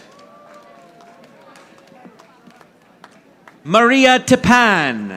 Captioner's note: audience applauding